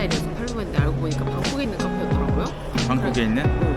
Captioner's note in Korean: 속사포